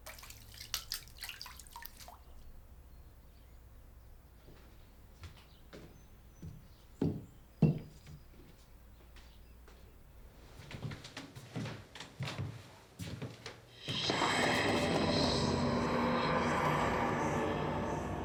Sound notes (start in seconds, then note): 0.0 water splashes; 7.0 plate softly thumps; 10.4 footsteps